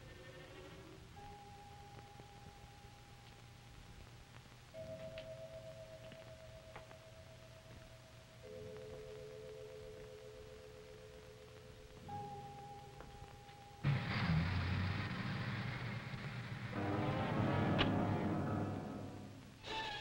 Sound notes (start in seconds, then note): 1.1 eerie music; 13.8 car rumbling; 17.1 dramatic music